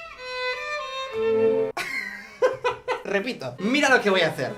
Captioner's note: laughs